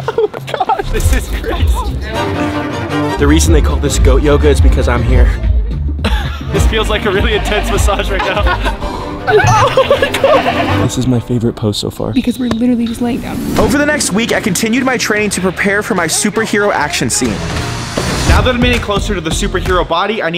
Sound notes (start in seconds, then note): 5.4 laughing; 7.9 laughing; 9.8 goats bleating; 17.8 upbeat music